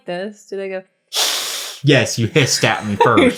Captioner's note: hiss